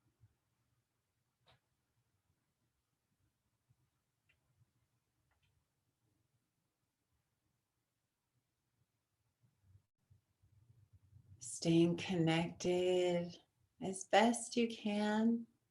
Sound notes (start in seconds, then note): 2.1 silence